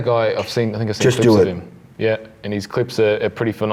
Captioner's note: murmurs